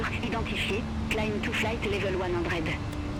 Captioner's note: radio chatter